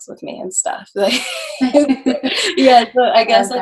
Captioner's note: women laughing